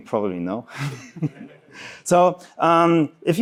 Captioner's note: laughing